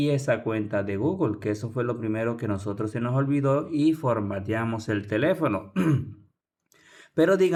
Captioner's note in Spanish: carraspeo